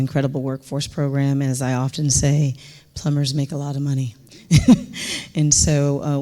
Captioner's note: chuckles